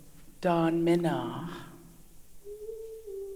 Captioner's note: In Mi’kmaq